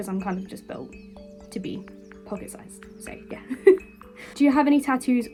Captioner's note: laughing